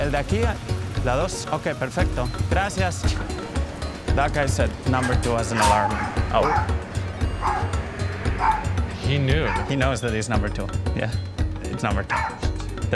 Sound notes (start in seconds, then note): 0.1 speaking in Spanish; 7.1 dog barking